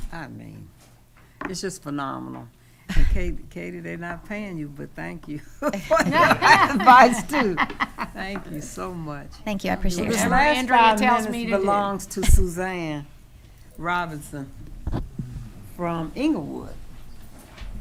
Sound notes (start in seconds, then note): 5.5 laughing